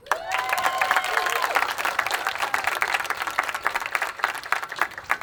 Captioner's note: attendees applauding and cheering